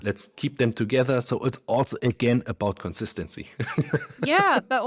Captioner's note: laughs